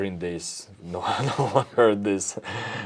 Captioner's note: laughs